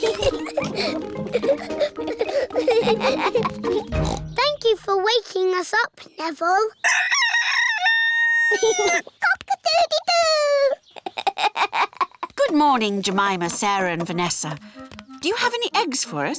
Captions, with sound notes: (BOTH GIGGLING) (OINKS) Thank you for waking us up, Neville. (NEVILLE CROWS) (LAUGHS) Cock-a-doodle-doooo! (GIGGLES) Good morning, Jemima, Sarah, and Vanessa. Do you have any eggs for us?